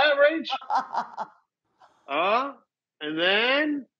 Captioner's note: Rachael laughs